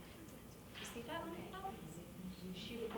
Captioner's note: speaking off mic